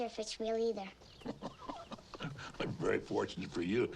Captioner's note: Hezekiah chuckling